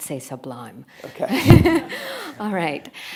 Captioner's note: attendees laughing